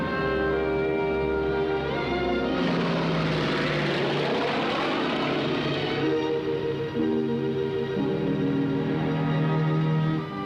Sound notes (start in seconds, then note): 2.2 whirring